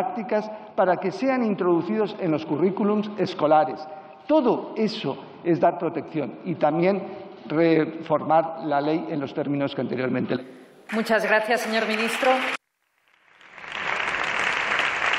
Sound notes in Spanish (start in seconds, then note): 11.4 Aplausos